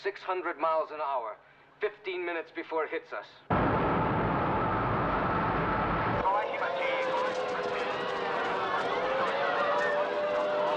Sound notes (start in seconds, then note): 3.5 siren Continues; 4.8 man Continues Over Loudspeaker; 6.2 panicked Chattering, Screaming Continue